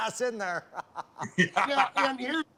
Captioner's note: laughter